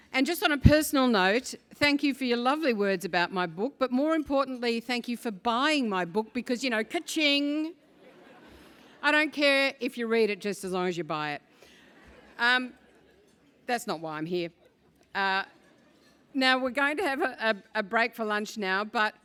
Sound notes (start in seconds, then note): 8.3 laugh; 12.1 laugh